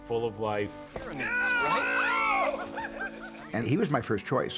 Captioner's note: Bennie grunts, laughs; Mitzi shouts, laughs